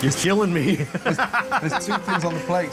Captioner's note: laughs